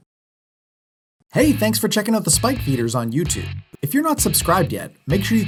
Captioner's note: voiceover